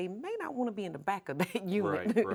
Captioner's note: chuckles